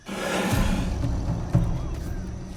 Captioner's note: hisses